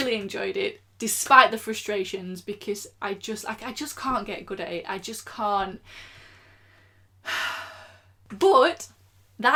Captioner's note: sigh